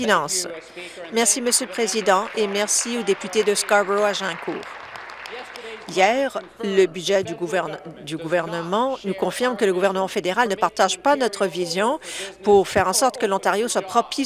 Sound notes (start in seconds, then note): 0.0 applause; 7.7 applause